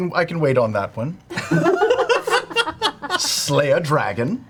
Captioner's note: all laugh